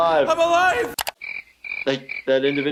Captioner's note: crickets chirping